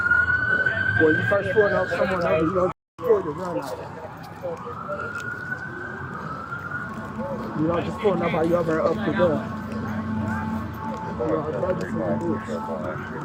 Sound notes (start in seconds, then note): 4.4 radio chatter; 10.0 radio chatter